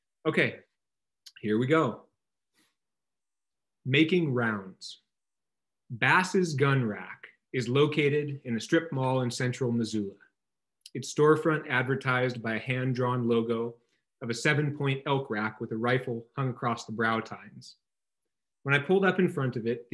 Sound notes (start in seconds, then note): none